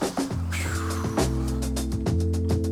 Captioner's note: sighs